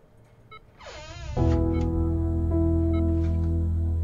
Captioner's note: machine beeping